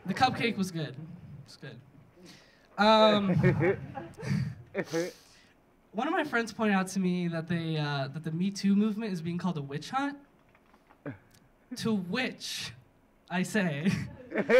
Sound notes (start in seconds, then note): 3.2 audience laughing; 14.2 audience laughing